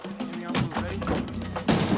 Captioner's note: loud thump